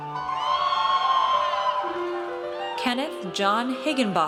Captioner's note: audience cheers